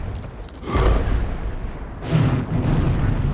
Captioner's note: gasps; multiple explosions